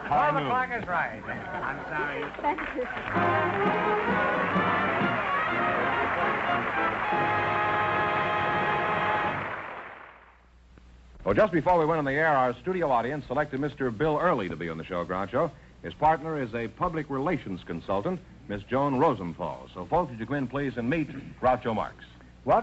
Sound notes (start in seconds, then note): 1.6 applause